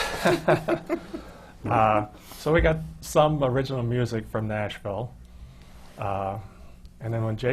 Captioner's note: laughter from the panel